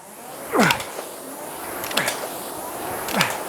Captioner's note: grunting